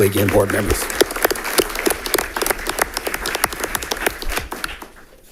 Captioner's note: audience applauding